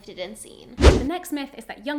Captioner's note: air whooshing